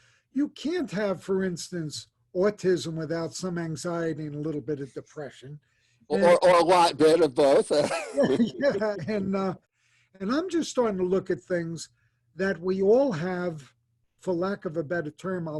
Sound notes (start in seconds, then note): 7.2 laughs